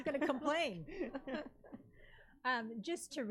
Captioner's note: some laugh gently